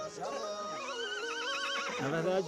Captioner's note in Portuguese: continua relinchando